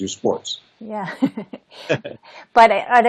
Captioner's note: chuckles